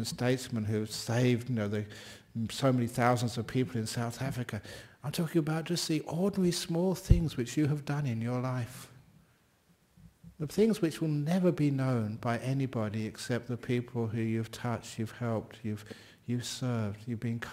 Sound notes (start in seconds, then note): none